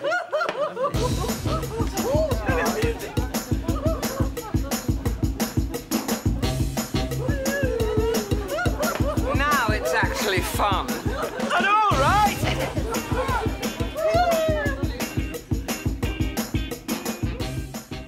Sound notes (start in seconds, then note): 1.4 laughs; 7.2 penelope laughs; 13.2 penelope whoops